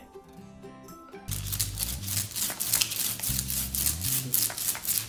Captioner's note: cracking sound